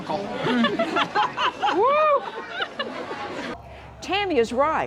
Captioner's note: laugh